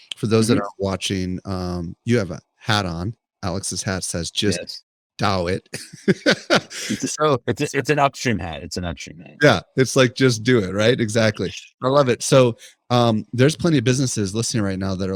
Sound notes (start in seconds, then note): 5.5 laughs